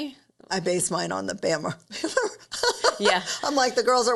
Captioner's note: laughs